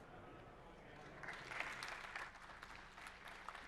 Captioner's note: applause